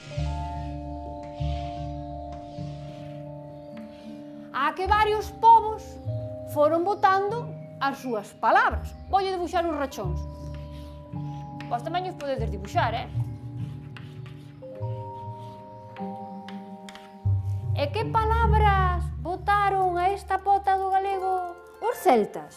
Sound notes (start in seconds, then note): 0.1 music of anticipation; 10.4 sound: chalk on blackboard; 14.8 music of anticipation